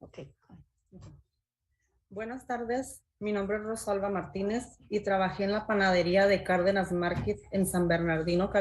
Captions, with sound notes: Okay, go ahead. (speaking in Spanish)